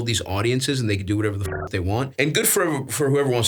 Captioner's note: beeps